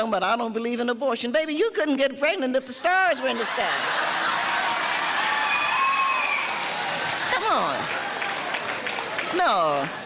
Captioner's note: cheering